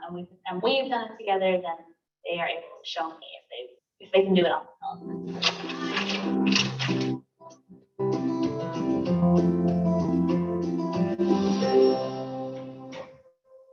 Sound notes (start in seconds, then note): 5.3 paper rustling; 5.5 upbeat music